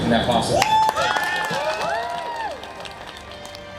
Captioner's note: audience cheers